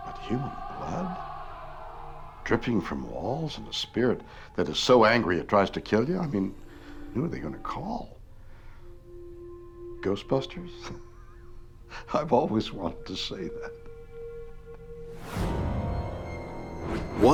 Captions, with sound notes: But human blood dripping from walls and a spirit that is so angry, it tries to kill you? Who are they gonna call? Ghostbusters? (laughs) I've always wanted to say that. (soft mysterious music) (dark dramatic music)